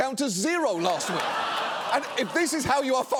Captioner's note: audience laughing